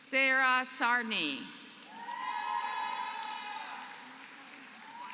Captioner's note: applause